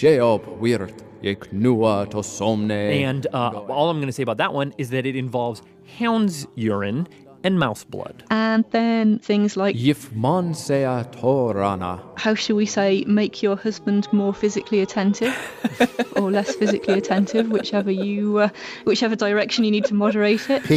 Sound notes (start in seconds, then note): 14.7 laughs